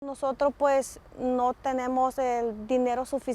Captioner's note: speaking Spanish